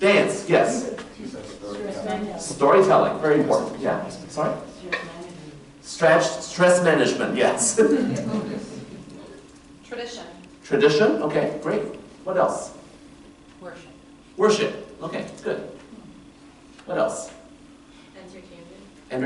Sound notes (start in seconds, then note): 7.9 laughter